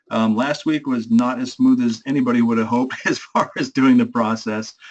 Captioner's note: laugh